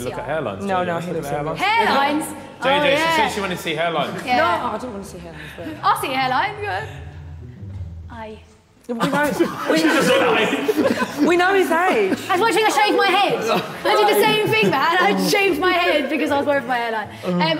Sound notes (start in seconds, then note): 8.9 all laughing